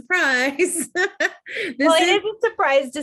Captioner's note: laughing